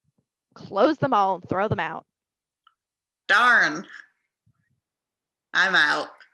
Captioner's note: laughs